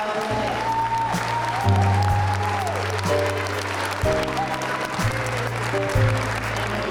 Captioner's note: crowd applauding; crowd cheering